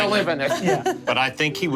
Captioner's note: laughing